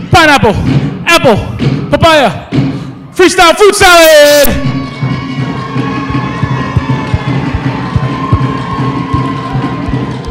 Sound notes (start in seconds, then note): 4.2 cheering